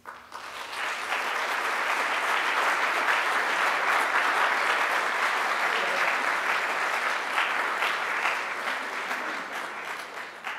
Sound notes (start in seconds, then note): 0.1 audience applauding; 5.8 audience chattering